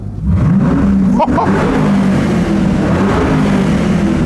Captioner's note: engine revving